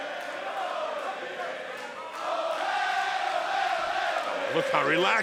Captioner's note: fans chanting